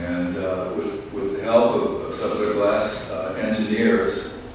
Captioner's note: none